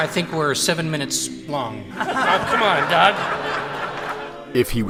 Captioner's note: laughter